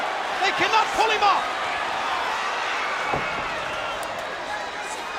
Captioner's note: crowd clamoring